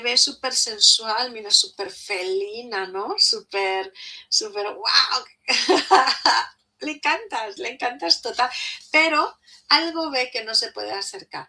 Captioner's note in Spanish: risas